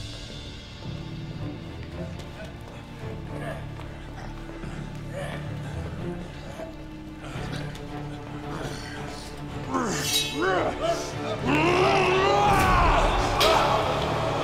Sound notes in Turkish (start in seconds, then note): 0.1 Müzik - Gerilim; 9.6 Bağırma sesi